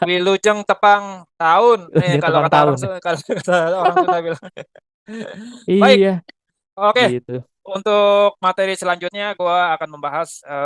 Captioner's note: laughs